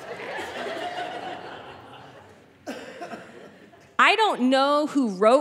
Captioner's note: audience laughing